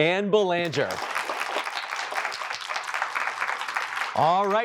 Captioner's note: applause